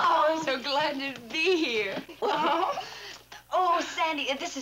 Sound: giggling

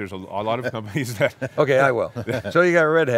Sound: laughs

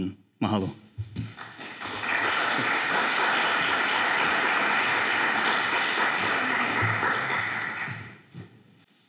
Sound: applause

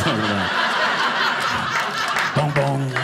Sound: audience laughing

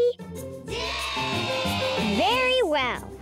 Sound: crowd

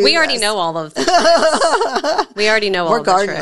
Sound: laughs

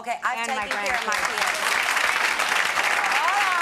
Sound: clapping

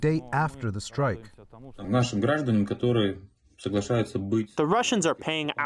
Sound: through translator

